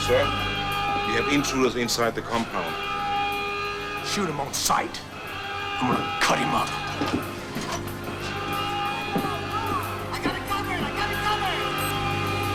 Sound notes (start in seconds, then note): 9.6 alarm wails; 12.0 explosives beeping